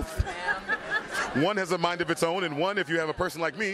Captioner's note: laughs